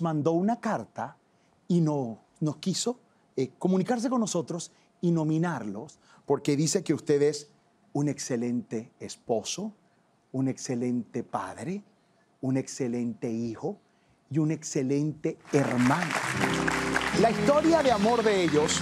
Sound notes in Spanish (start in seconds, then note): 15.4 Aplausos